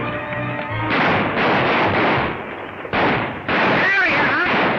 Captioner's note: guns firing